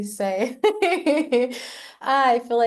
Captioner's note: laughs